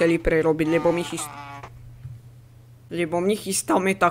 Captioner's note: scream